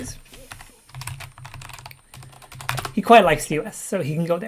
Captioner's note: keyboard keys clank